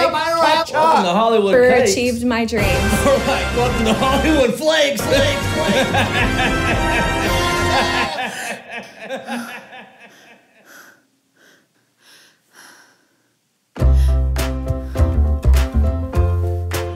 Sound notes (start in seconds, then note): 5.0 laughing; 13.8 cheerful music